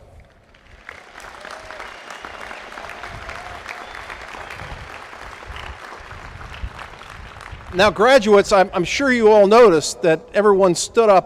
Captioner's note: applause